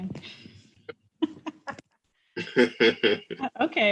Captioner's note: laughter